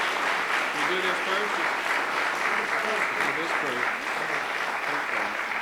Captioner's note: applause